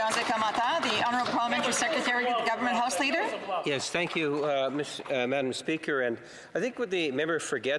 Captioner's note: applause